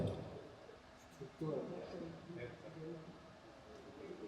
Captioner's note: people mumbling